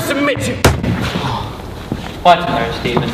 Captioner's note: whack!